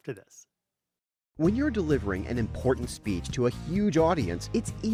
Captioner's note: voice-over